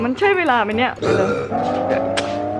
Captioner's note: Burping